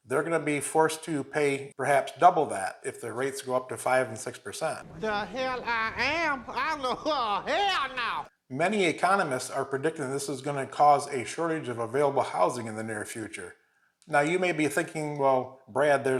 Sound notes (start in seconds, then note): 4.8 murmurs